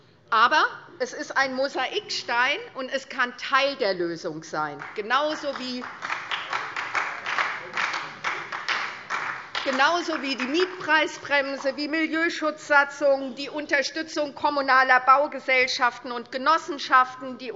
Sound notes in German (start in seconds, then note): 4.8 Beifall SPD